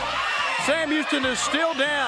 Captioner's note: crowd cheering